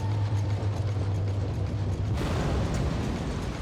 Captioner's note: explosion